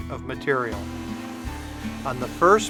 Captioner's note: machine humming